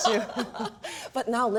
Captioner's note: laughing